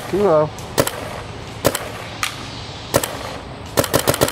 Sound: shooting sounds

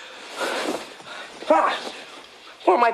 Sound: Marty yelling

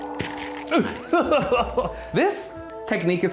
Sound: laughs

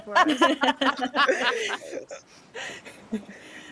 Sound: person laughing

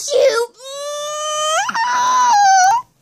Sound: kissing

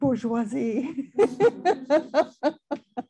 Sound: laughing

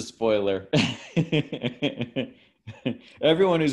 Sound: laughs

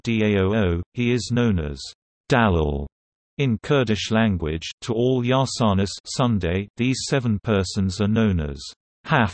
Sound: in Kurdish Language

